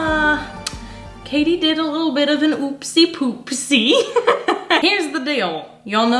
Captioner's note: laughs